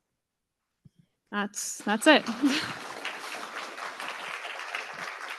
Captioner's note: clapping